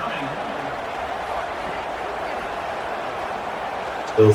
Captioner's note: crowd Noises